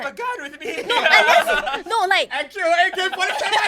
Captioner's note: commotion